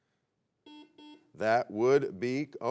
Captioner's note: buzzer beeps